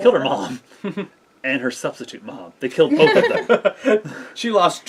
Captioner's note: laughs